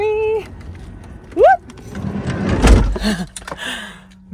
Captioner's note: door clattering; laughs